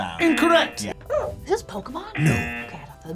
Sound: buzzer barks; buzzer; buzzer barks

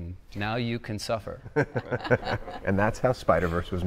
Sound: group laughing

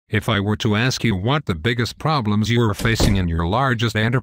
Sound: door slams shut

